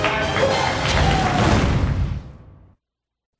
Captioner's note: cheers and applause